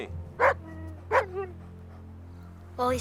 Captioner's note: Buck barking